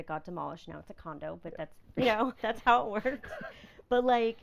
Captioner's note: laughing